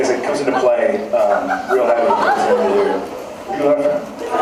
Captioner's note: laughs